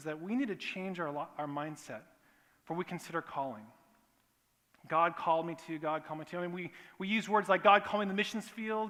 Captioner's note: none